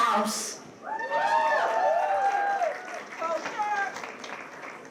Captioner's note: cheers, applause